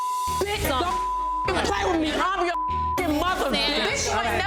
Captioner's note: overlapping chattering; beep